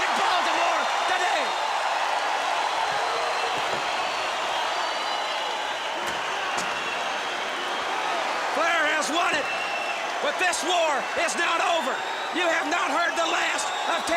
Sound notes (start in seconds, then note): 2.4 crowd cheering